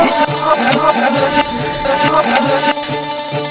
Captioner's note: distorted voices